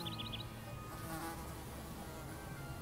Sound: buzzing

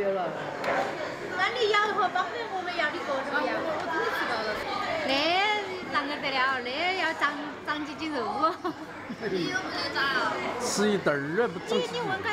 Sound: they chatter

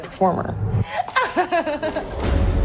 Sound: laughs

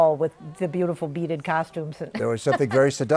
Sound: laughs

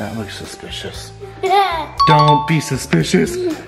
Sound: kid laughs

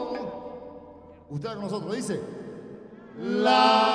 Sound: speaking foreign language; singers singing in foreign language

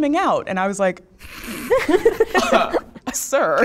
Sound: participants laughing

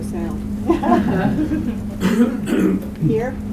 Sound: audience laughs

